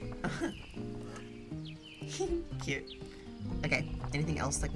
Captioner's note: giggles